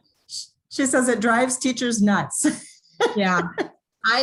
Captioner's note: laughs